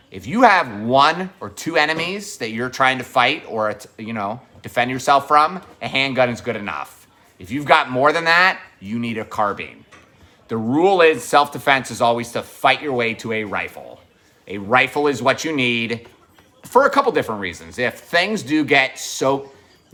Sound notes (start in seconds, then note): none